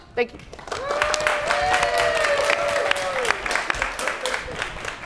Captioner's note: applause, cheering